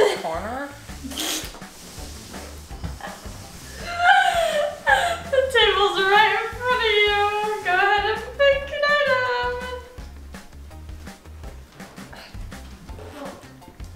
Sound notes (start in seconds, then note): 3.7 laughing; 10.8 jolly music plays